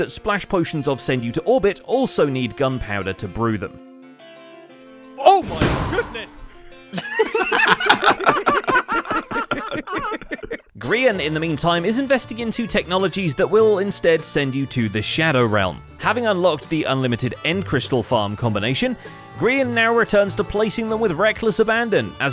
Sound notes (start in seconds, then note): 5.4 wind Burst; 9.1 group laughs